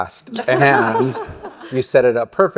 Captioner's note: laughter